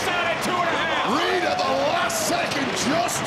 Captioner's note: audience cheering